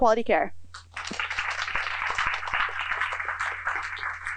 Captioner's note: applause